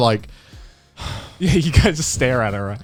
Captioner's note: exhaling